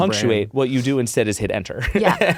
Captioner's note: chuckles